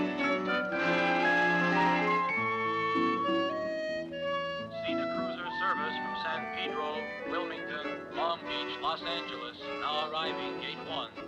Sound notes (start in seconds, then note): 2.5 peaceful music; 5.0 loudspeaker